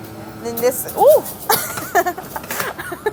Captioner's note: laughing